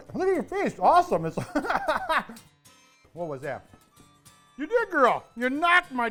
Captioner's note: laughs